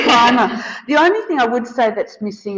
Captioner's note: all laughing